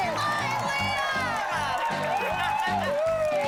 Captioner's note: cheers, applause